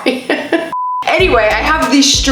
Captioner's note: laughs; beep